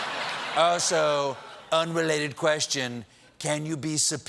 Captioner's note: laughter